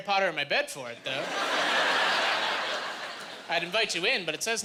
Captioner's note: laughing